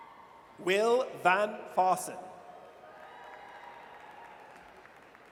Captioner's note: audience cheers